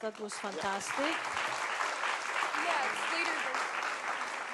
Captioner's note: applause